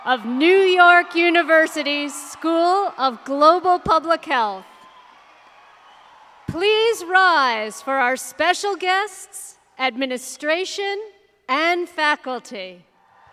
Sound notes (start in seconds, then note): 5.9 audience cheering